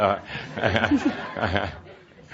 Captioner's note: laughter